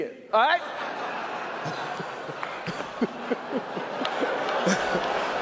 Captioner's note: audience and Chris laughing